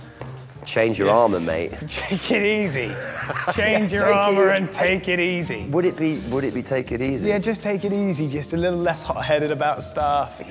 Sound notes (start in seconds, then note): 1.8 laughs; 1.9 chuckles